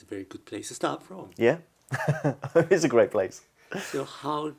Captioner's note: laughs